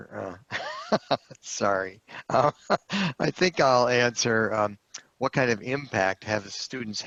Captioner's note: laughter